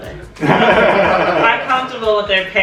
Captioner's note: laughter